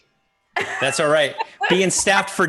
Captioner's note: laughing